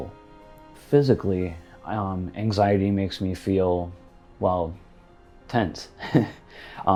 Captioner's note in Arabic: يضحك